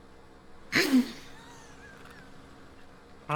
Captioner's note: laughing